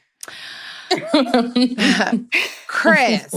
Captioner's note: chuckles